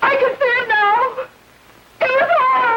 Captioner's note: sobbing